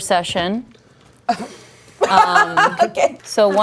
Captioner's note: laughing